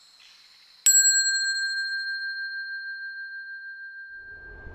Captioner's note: bell dings